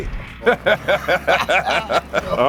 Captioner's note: laugh